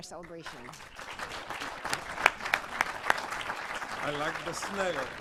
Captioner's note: applause